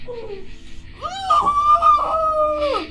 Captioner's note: muffled screaming; shushing